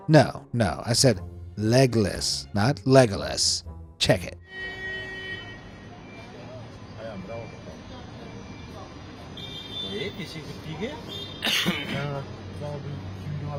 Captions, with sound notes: No, no, I said legless, not Legolas. Check it. (car horns honking) (passersby speaking in foreign language)